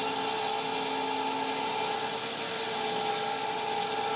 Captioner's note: saw buzzing